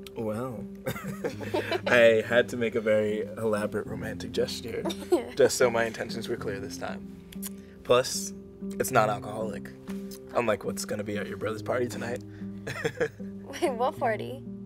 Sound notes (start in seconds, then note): 12.6 Michael laughs